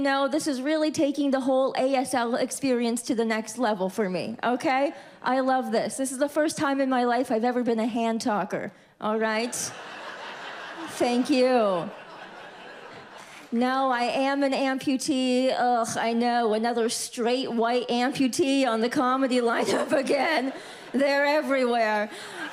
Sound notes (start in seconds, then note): 9.4 audience laughs